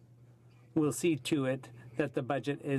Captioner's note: speaking French